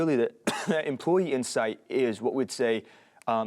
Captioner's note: coughs